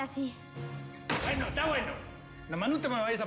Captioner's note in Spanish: golpe en la mesa